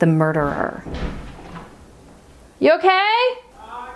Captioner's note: bang